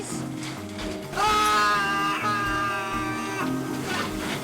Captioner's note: screaming